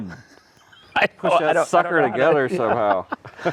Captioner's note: laughing